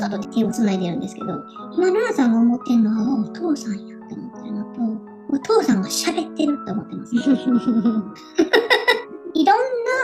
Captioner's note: laughs